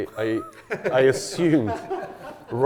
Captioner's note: everyone laughs